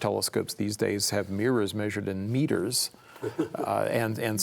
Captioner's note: chuckles